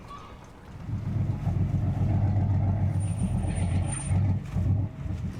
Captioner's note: sea birds caw; boat engine rumbles